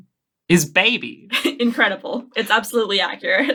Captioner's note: laughing